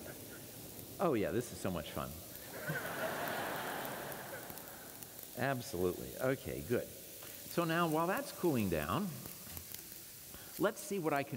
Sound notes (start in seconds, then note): 0.2 laughter; 2.3 hissing sound